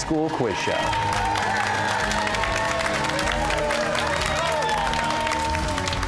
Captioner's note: cheers and applause